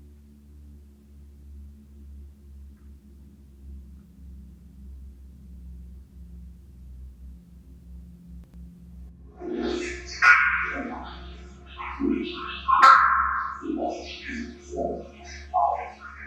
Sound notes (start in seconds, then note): 5.1 dramatic music continues; 9.9 disembodied voice garbles